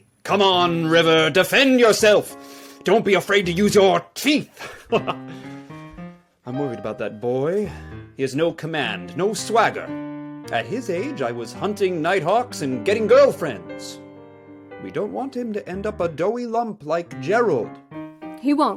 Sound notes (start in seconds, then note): 4.6 laughs